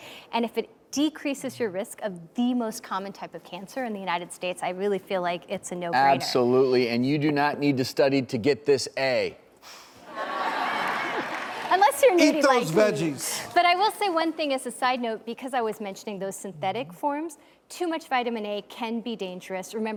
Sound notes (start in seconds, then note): 10.1 audience laughs